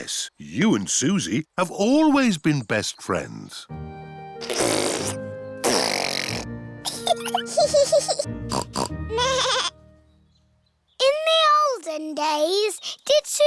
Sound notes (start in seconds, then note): 4.4 sputtering; 6.8 both giggling; 8.5 snorts; 8.8 bleats